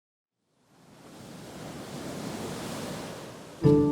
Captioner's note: ocean sounds